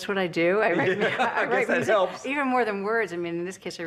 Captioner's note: laughing